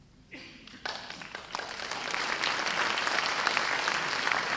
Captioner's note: audience applause